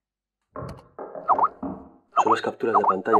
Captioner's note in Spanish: Golpes